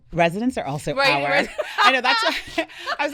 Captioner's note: laughing